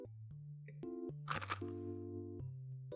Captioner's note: crunchy